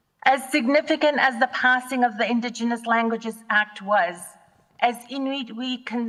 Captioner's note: none